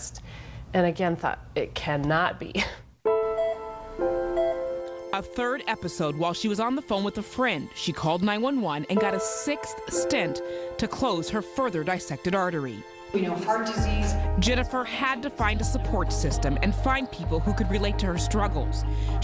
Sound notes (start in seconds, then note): 4.2 heart monitor beeps; 5.2 voiceover